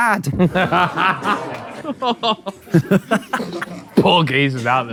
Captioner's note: people in room laughing